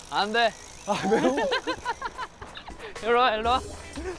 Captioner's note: giggling